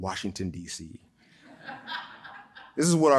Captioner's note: audience chuckles